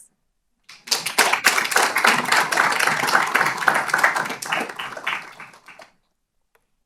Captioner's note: applause